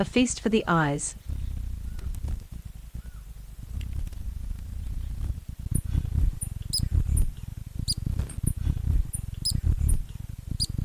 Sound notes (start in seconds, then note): 1.1 mild wind blowing; 1.7 bird chirping